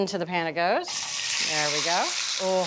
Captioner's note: pan sizzling